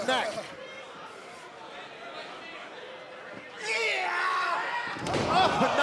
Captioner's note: crowd cheering